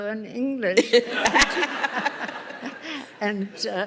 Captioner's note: laughter